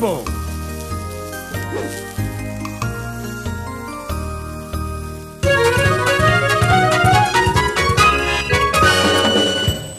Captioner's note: sizzling